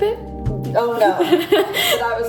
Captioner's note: laughs